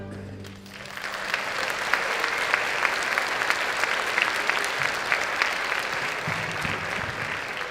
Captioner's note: applause